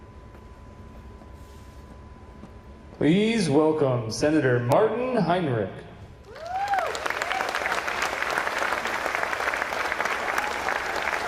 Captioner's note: applause